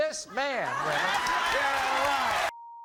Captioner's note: applauding